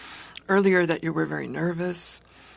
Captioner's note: speaking in French